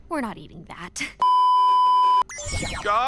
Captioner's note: beeeeeeeeeeeep